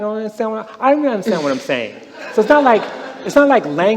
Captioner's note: laughter